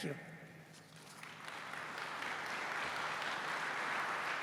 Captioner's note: applause